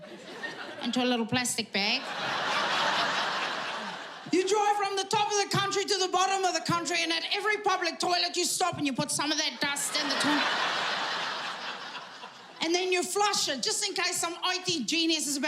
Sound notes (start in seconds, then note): 9.6 audience laughing